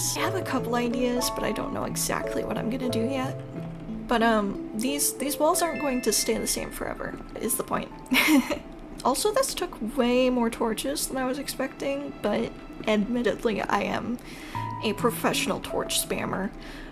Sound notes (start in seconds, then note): 8.0 laugh